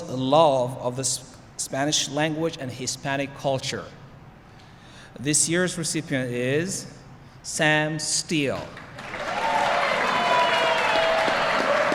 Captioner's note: applause